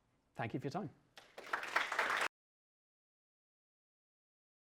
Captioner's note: applause